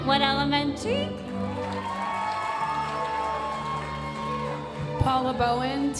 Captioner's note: audience cheering and applauding